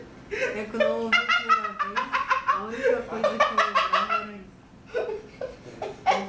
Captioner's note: laughter